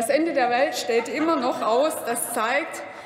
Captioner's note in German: Heiterkeit bei Abgeordneten des BÜNDNISSES 90/DIE GRÜNEN